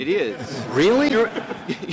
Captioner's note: laughter